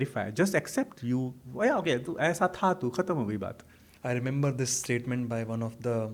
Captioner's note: hindi